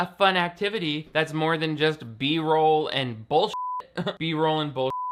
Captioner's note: beep